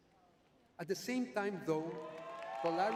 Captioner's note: audience cheering